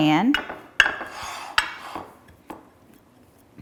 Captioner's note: metal clinking